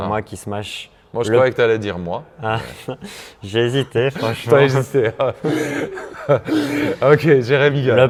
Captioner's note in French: rires